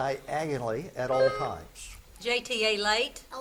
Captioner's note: buzzer beeps